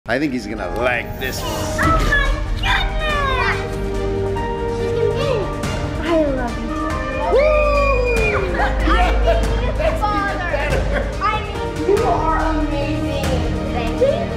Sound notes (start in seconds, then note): 3.5 uplifting music; 7.0 cheering